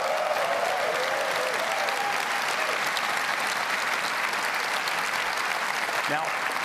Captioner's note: applause